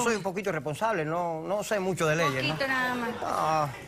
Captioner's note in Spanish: risas